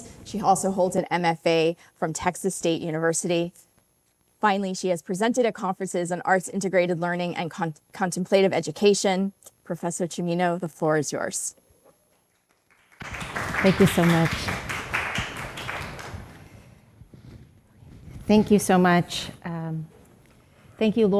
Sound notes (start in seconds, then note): 12.6 audience applauding